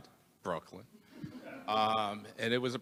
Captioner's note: attendees laughing